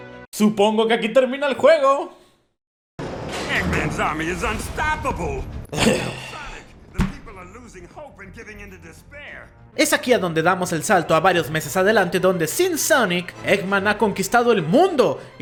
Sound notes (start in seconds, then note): 3.4 Vector's usual gibberish; 5.7 grunts in frustration